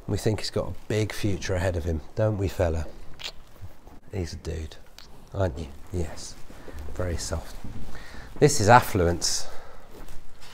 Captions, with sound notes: We think he's got a big future ahead of him, don't we fella? (kissing sound) He's a dude. (kissing sound) Aren't you? Yes, very soft. This is Affluence.